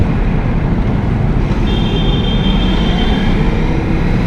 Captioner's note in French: klaxonssssss